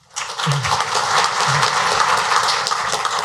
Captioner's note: applause